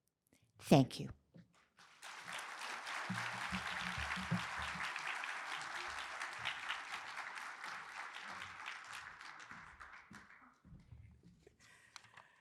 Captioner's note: applause